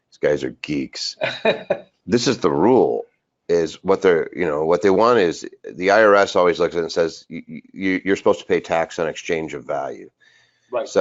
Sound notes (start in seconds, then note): 1.0 laughing